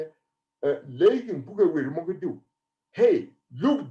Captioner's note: speaking in foreign language